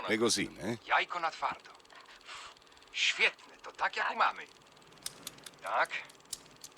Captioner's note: speaks in polish